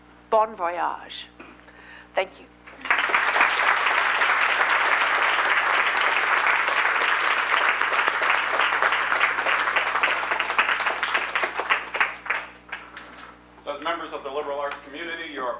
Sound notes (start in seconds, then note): 2.7 audience Applause